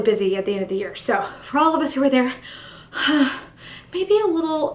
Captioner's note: sighs